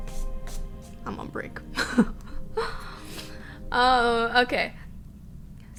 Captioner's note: she laughs